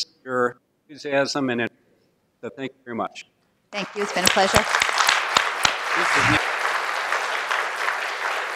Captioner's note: applause